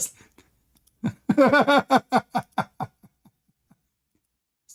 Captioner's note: Ketawa